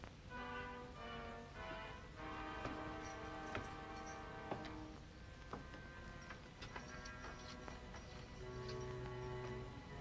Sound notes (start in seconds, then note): 0.1 ominous music; 2.4 footsteps up steps; 6.4 door unlocks; 9.8 soft ominous music